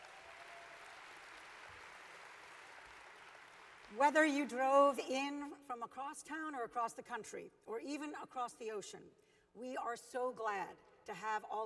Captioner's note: applause